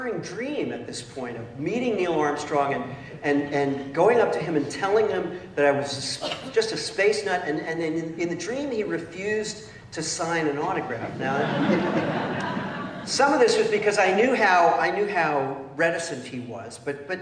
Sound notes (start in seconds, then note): 11.1 laughter